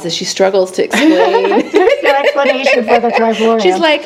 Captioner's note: laughing